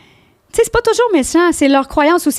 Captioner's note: in french